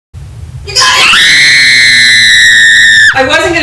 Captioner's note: screaming